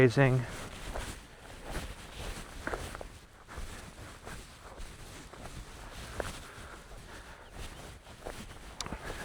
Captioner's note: wind